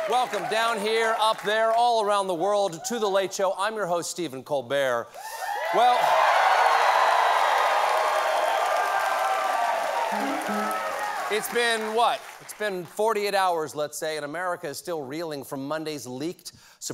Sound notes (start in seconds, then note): 5.2 cheers and applause